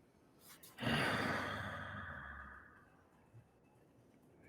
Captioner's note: exhales loudly